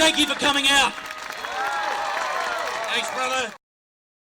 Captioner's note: crowd applauds